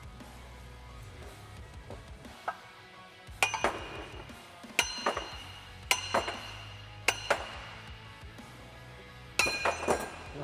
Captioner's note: hammering